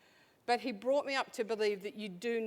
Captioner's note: none